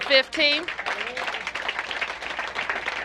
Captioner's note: applause